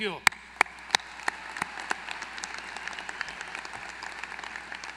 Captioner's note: applause